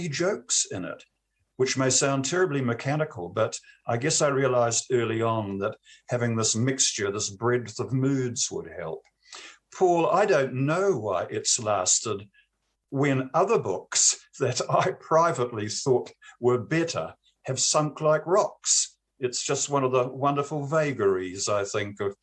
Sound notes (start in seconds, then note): 14.4 laughs